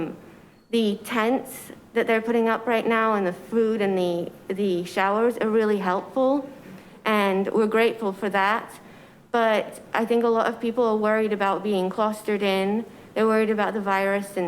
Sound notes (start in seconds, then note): none